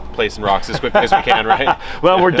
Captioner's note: laughs